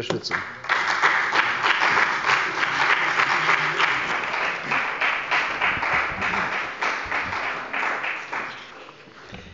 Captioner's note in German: Beifall bei der CDU und dem BÜNDNIS 90/DIE GRÜNEN